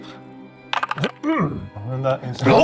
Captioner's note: dice clattering